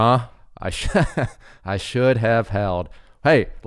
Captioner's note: chuckles